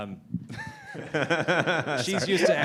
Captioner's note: laughter